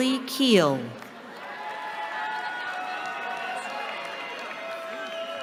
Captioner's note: cheering